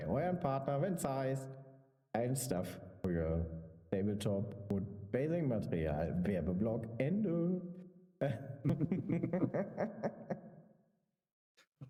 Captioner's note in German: gelächter